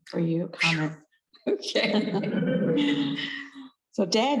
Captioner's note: both laughing